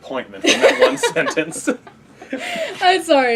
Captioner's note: laughing